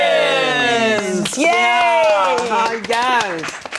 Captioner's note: all clap